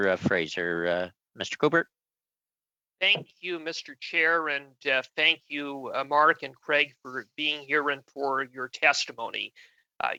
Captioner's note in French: voix de l'interprète